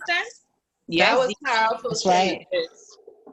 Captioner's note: woman's Voice